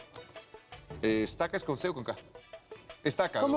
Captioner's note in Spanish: tecleo